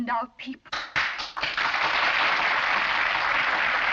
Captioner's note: crowd applauds